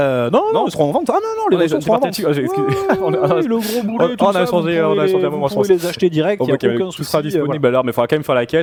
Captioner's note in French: rires